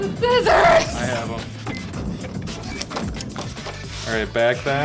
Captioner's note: scissors clicking